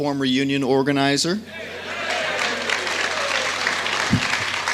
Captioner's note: applause and CHEERS